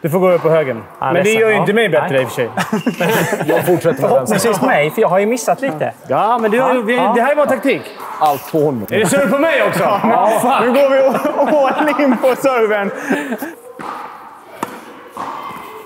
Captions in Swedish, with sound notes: Du får gå över på högern, men det gör ju inte mig bättre i och för sig. Jag fortsätter med vänstern. Förhoppningsvis mig, för jag har ju missat lite. Ja, men det här är bara taktik. Allt på honom! Är det serve på mig också? Ja! (skratt) Fuck! Nu går vi all in på serven!